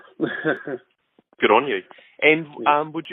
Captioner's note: chuckles